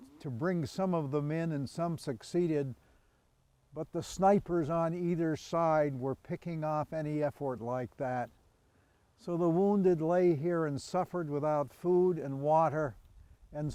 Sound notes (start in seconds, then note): none